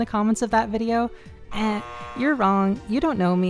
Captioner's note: incorrect buzzer sound